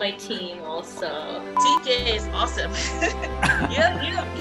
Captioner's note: laughs